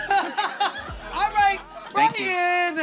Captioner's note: collective laughing